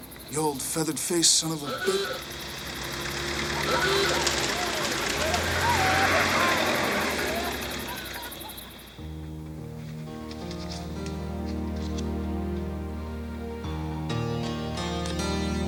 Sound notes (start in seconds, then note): 1.6 horn honks; 1.8 engine revs; 5.5 distant yelling; 9.0 warm piano music